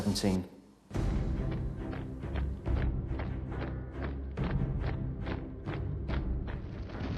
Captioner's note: dramatic music; marching